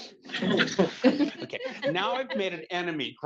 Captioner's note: attendees laughing